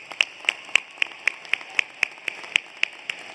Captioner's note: applause